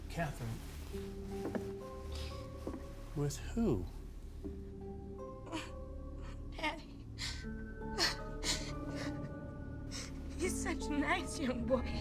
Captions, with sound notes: Cathryn, with who? - (crying) Daddy. (Cathryn crying) He's just a nice young boy.